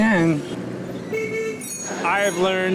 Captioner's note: horns blaring